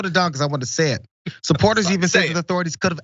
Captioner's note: laugh